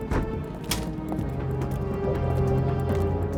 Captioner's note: door thuds; tense music continues